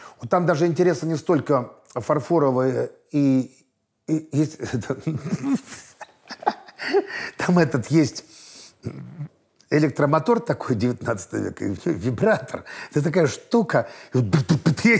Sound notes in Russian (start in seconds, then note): 5.1 хихикает